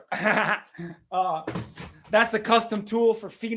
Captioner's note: laughs